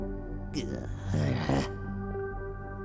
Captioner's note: grumble